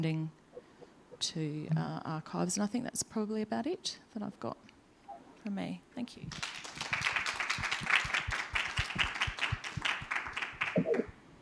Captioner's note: applause